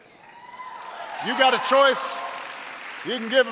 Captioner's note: applause